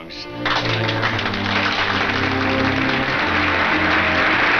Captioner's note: audience applauds